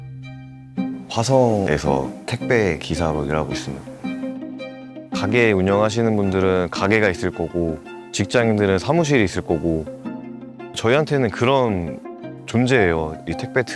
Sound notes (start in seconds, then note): 2.4 voiceover